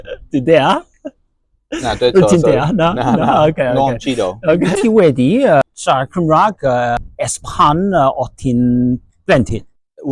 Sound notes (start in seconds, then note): 4.1 in Cantonese